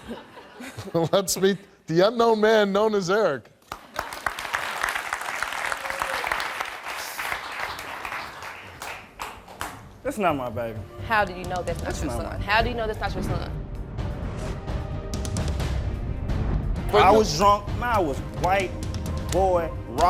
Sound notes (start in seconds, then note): 3.6 audience applauding